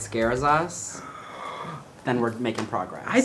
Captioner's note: gasps